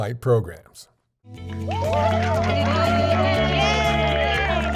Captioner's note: cheers and applause